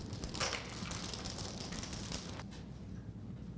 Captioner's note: beads rattling